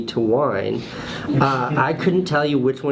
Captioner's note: laughs